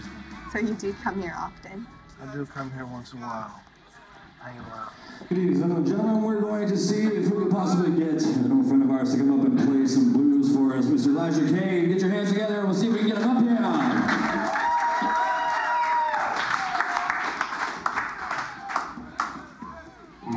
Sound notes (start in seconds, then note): 15.4 cheers and applause